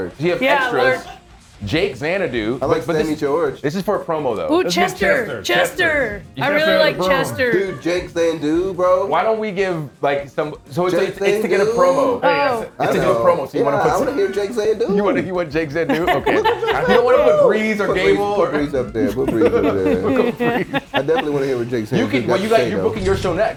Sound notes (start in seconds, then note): 14.1 laugh